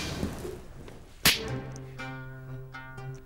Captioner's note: Slap